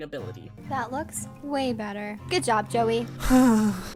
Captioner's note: sighs lovingly